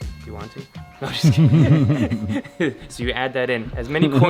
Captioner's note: laughs